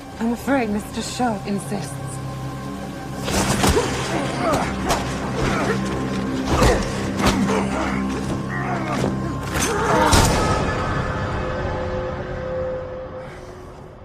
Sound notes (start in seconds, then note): 5.3 grunting; 9.7 gun shot